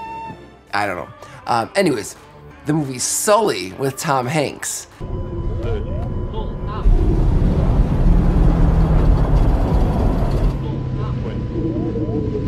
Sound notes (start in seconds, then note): 7.8 plane engine roaring